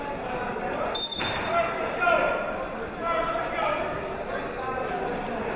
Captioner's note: whistle blowing; yelling